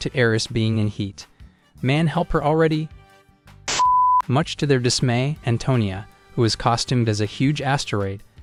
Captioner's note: beep